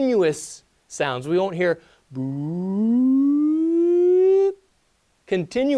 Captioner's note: making sound effect